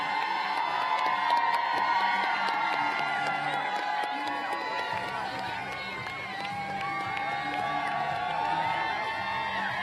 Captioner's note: applause